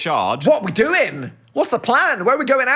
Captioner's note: none